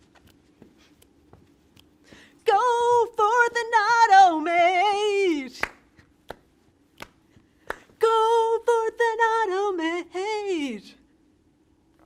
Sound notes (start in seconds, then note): 5.5 clapping